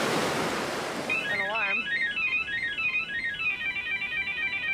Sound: alarm ringing

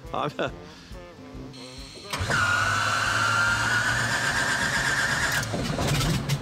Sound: plane starting; engine noise

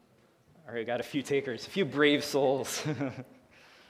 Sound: laughs

